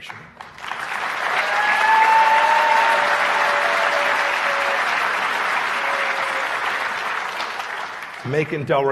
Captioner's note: cheers and applause